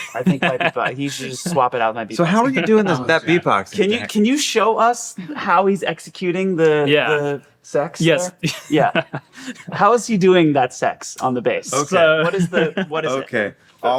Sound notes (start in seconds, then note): 8.1 laughing